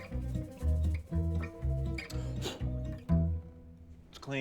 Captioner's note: puffs